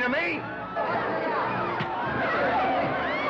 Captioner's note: thud; commotion & chaos; suspenseful music